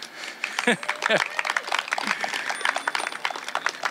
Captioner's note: cheering; laughter